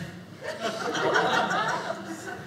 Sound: audience laughing

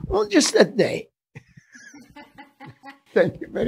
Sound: laughing

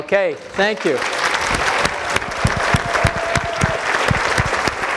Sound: applause

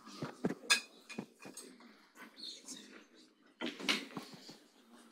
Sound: audience chattering faintly

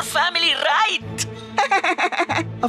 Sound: laughing

